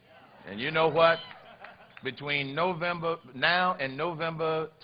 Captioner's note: laughter